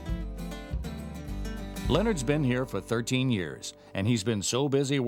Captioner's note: voiceover